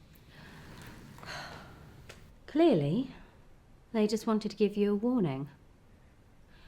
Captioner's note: sighs